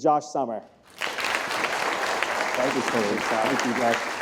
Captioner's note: applause